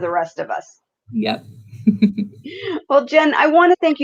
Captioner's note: laughs